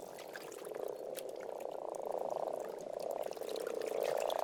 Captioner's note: water sloshes; frogs croak